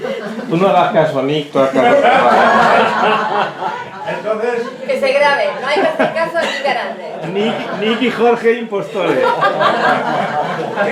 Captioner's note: laughs